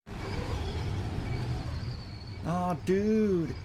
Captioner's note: wind